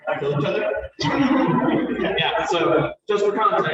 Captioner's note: laughter